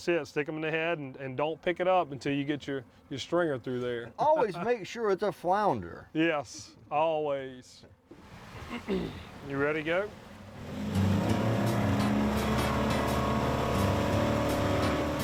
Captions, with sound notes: Stick 'em in the head and don't pick it up until you get your stringer through there. - Always make sure it's a flounder. - Yes, always. You ready to go? (engine revving) (chilled music)